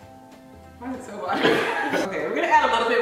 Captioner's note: laughing